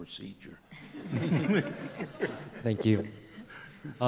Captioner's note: laughter